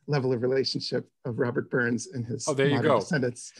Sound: laughs

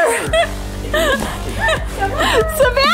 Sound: laughing

